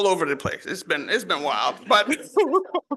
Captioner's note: laughs